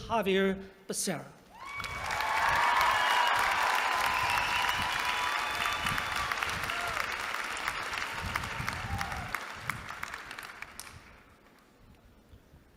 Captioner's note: applause